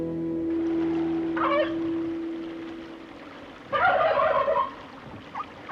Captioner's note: turkey gobbling; jack barking